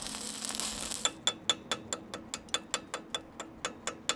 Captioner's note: metal clinking